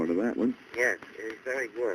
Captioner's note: on phone